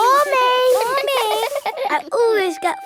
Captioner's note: all giggling